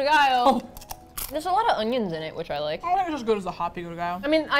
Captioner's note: mouth full